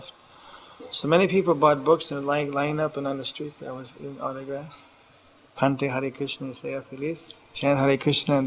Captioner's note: speaks in Spanish